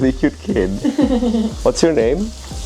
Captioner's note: laugh